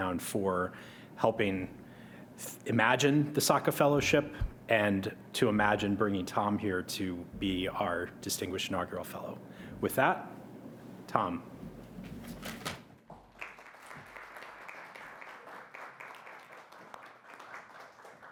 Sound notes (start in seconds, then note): 13.3 audience applauding